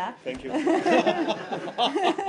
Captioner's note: laughter